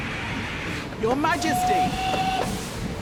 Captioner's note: whistle blows